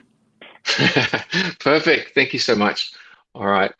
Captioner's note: laughs